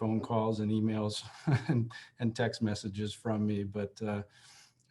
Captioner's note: laughter